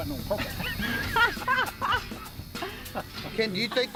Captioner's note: laughter